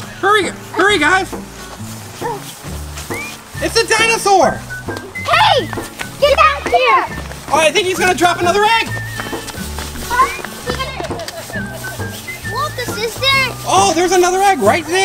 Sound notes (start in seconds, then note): 2.0 whistling tune; 10.6 laughing